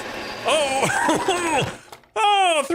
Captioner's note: laughing